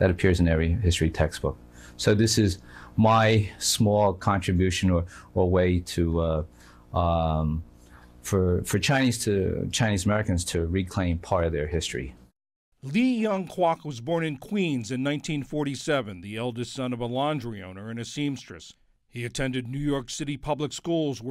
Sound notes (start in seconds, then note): 13.2 voice-over